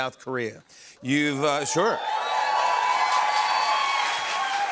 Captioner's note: audience cheers, applauds